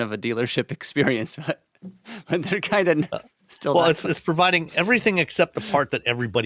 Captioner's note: chuckles